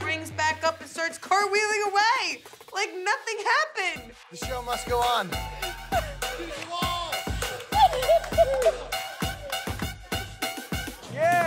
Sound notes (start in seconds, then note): 7.5 laughter